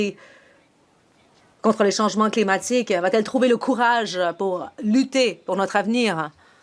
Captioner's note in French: voix de l'interprète